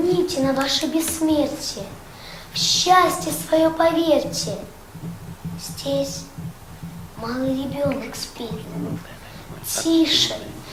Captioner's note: recites Yandiyev's poem